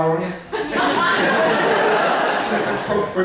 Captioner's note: laughter